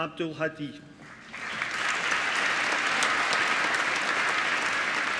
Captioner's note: applause